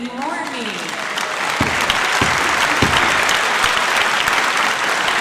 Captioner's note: audience applauds